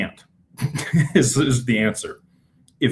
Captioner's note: laughter